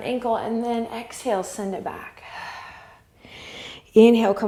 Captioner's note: exhale